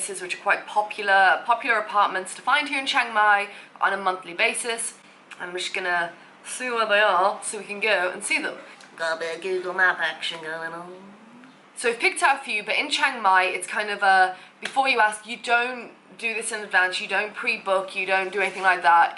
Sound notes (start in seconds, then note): 8.6 in an accent